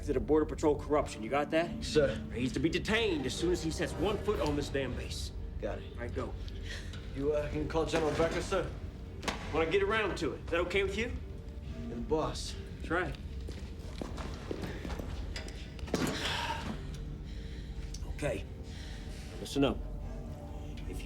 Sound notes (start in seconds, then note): 7.2 Kelly gasps